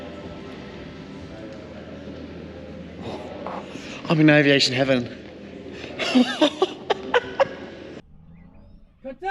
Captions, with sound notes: I'm in aviation heaven. (laughing)